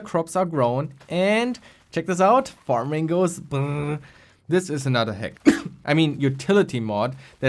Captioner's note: cough